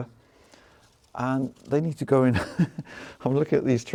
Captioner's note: laughs